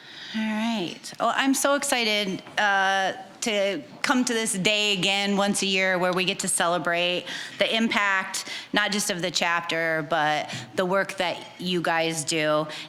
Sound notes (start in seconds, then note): none